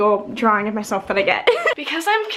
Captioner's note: giggles